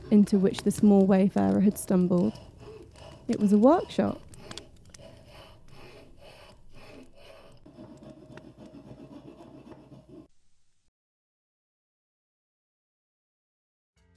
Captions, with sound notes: into which the small wayfarer had stumbled. It was a workshop. [sawing sound] [silence]